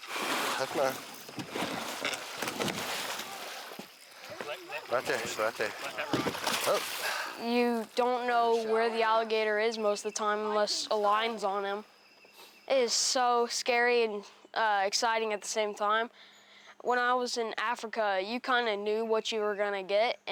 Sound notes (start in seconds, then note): 0.0 water splashing; 2.8 gator thrashing boat